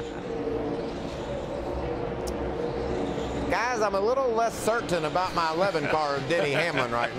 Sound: laughs

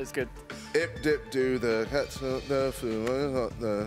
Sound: chanting

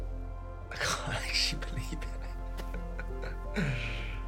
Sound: chuckling

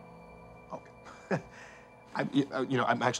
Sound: detective chuckling

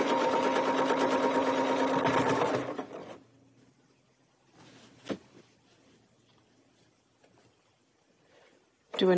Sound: sewing machine whirring

